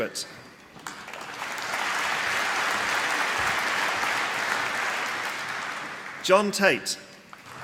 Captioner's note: applause